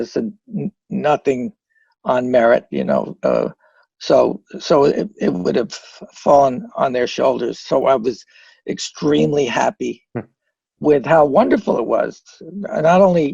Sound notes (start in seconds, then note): none